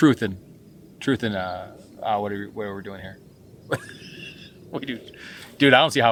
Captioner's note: laughing